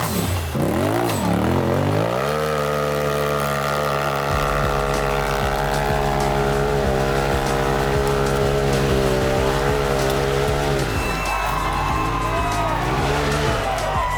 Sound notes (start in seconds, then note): 2.1 engine revving; 5.3 cheering